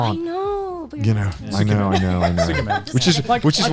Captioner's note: whispers